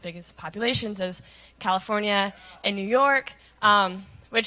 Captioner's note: none